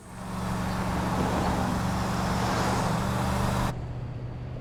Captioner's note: car engine revving